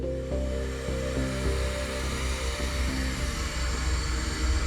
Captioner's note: vacuum sounds